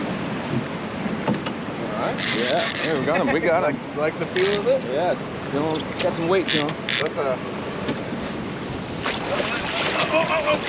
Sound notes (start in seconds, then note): 4.4 reel cranking; 8.9 fish splashing